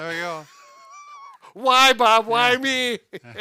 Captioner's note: laughing